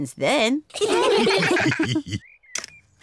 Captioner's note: all laugh